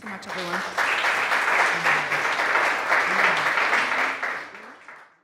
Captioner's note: audience applauding